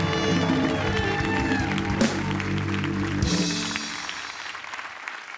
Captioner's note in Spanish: Suenan aplausos